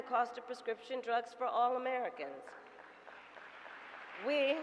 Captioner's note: applause